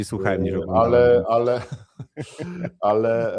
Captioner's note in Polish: śmiech